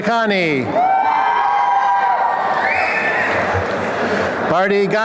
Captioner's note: applause and cheering